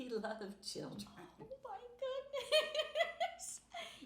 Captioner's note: laughing